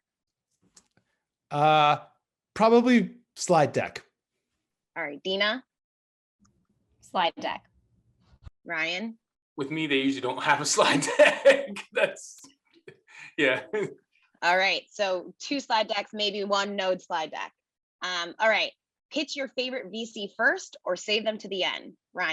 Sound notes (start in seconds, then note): 10.7 laugh